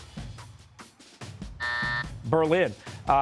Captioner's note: buzzer